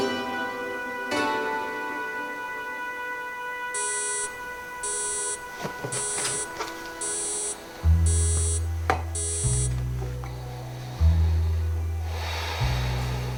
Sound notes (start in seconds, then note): 3.7 alarm beeping; 5.6 atmospheric electronic music